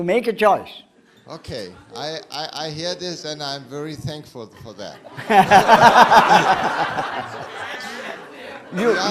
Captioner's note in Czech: smích